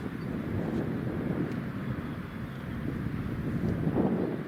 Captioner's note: wind blowing